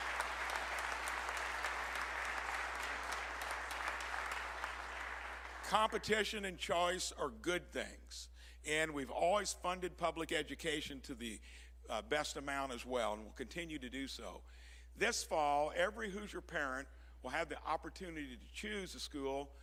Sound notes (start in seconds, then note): 2.5 applause